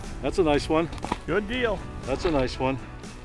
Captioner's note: voiceover